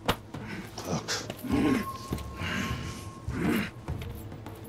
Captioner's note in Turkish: Nefes sesi